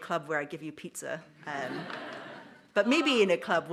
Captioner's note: audience laughs